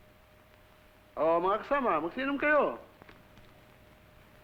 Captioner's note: non-english speech